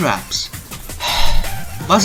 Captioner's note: s i g h